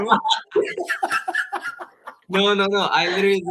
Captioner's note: laughing; all laughing